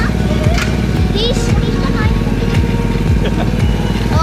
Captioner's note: ride engine rumbling; chuckling